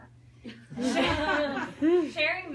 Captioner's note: people giggle